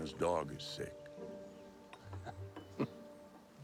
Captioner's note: chuckles